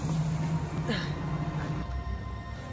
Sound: sigh

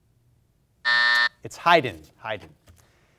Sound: timer buzzers

